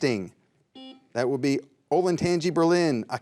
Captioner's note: buzzer beeps